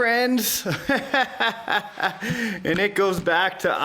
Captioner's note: laughing